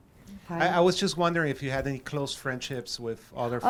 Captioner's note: voiceover